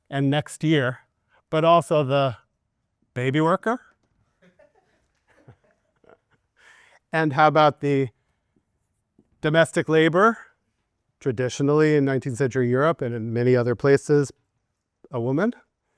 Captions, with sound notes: and next year, but also the baby worker. (students giggling) And how about the domestic labor? Traditionally in 19th century Europe and in many other places, a woman,